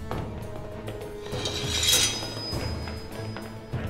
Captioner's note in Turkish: Kılıç çekme sesi; Ayak sesleri